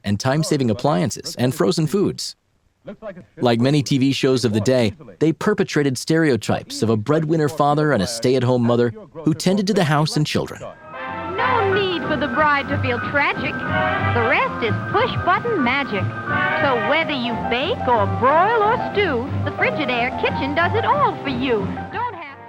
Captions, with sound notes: and time-saving appliances and frozen foods. Like many TV shows of the day, they perpetuated stereotypes of a breadwinner father and a stay-at-home mother who tended to the house and children. - [Voiceover] No need for the bride to feel tragic, the rest is push-button magic! So whether you bake or broil or stew, the Frigidaire kitchen does it all for you.